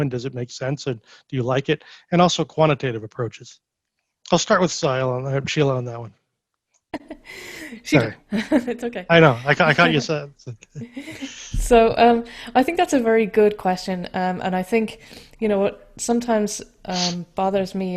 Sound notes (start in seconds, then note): 7.1 chuckles